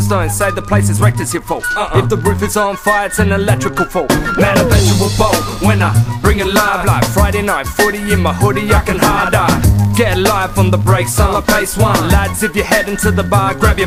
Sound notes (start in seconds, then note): 4.2 woo